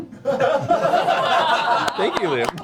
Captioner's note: laughter